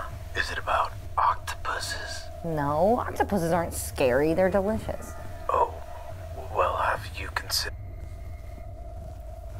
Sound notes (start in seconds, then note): 5.7 on phone